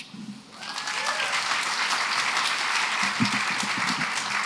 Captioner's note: applause